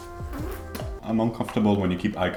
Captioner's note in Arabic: موسيقى هادئة; أصوات مص